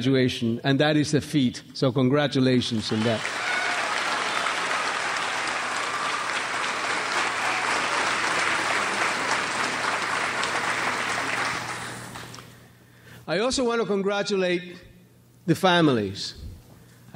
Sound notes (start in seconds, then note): 3.5 crowd applauds